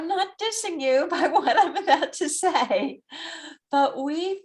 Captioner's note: laughs